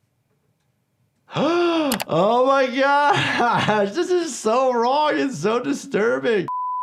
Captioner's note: gasps; test pattern beeps